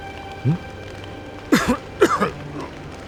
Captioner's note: cough Cough